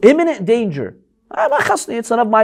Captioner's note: Arabic